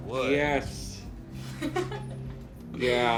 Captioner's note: laughs